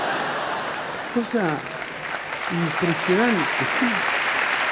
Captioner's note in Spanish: Risas; Aplausos